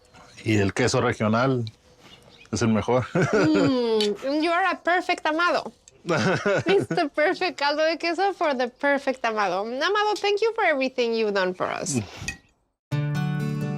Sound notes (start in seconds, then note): 2.9 chuckles; 6.0 laughs